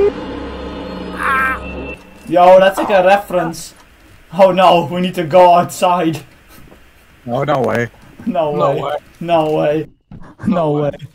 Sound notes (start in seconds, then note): 1.1 screams; 2.7 door opens